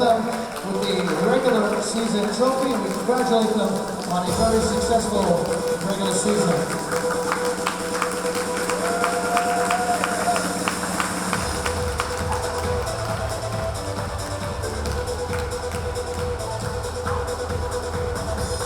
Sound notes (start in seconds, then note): 8.2 cheering; 8.2 clapping